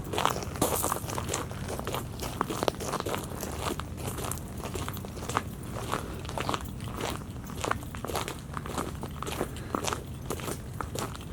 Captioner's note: footsteps on shell